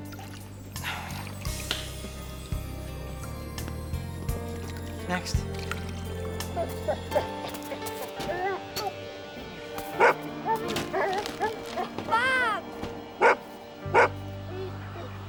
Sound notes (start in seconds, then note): 7.1 whining; 9.8 barks; 13.9 barking